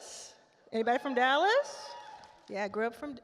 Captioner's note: attendees cheer